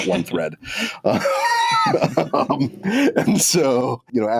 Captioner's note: laughter